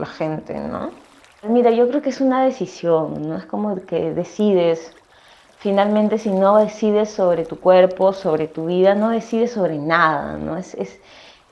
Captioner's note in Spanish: sonidos de agua, hormigas y voz off femenina #5; sonidos de agua, hormigas y voz off femenina #6